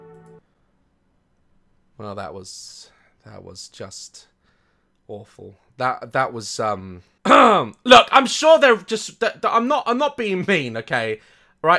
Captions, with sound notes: Well that was... that was just... awful. That was... um. *clears throat* Look, I'm sure they're just I- Tha- I'm not being mean, okay. Alright?